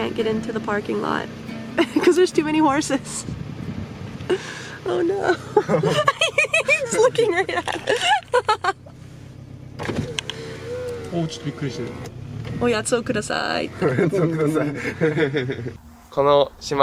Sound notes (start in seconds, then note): 5.3 laughter; 11.3 speaking Japanese; 13.8 laughter